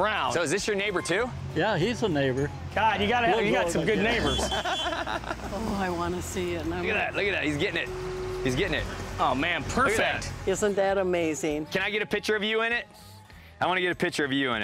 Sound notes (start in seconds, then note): 3.8 laughs